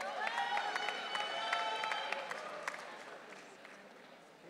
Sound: audience cheering

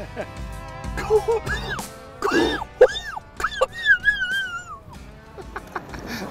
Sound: weezing; laughing

